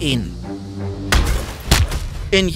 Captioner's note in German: Schlaggeräusche